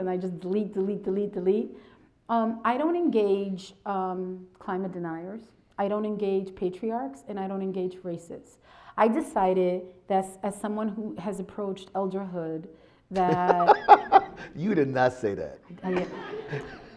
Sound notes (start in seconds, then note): 13.1 laughs